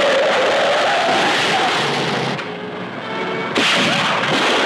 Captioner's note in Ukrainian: автомобільна аварія